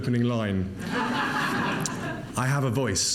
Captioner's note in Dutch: publiek lacht